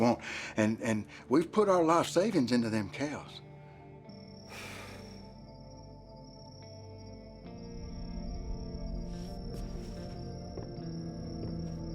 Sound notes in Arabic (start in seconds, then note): 4.4 فلاش باك، ليم يزفر; 6.2 موسيقى متوترة